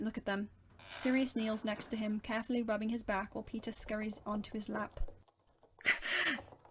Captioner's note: floorboards creak; Remus makes a pained laughing noise